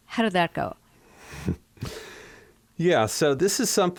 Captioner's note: laughter